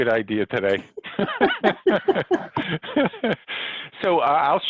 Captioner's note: both laugh